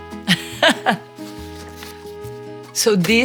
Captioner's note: Gisele laughing